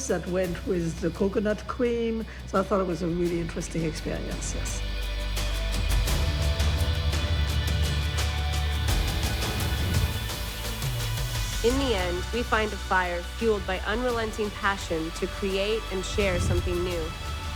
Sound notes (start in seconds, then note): 6.7 climactic music; 9.7 air whooshes